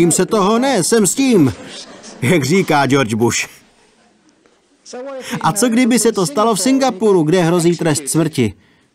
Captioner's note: laughter